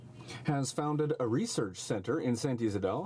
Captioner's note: speaking French